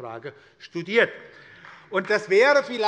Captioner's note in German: Beifall bei der SPD